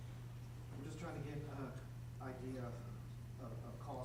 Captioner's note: voiceover